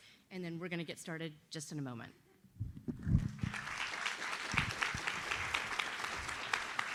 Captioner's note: audience applauds